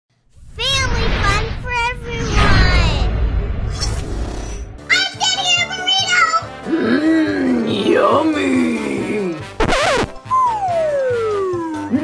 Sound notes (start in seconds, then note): 0.6 child's Voice; 9.6 record scratches